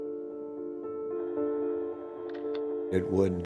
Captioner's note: shutter clicks